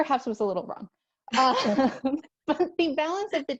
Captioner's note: laughter